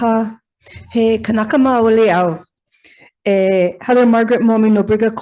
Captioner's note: speaks in foreign language